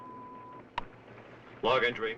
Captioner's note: beeping